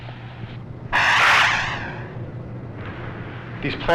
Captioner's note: air whooshes